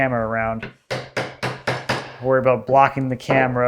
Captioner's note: woods smacking